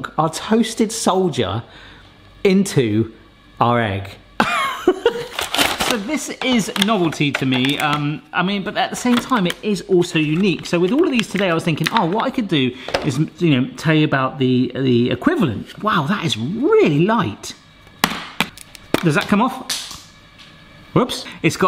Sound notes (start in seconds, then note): 4.4 laughing